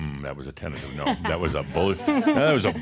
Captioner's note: she chuckles